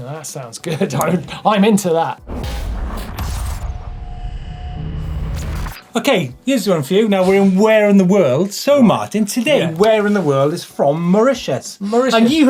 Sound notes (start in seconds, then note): 2.4 digital buzzing